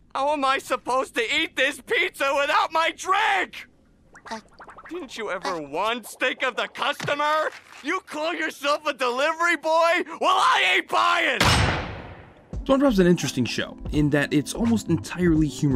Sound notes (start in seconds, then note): 11.4 door slamming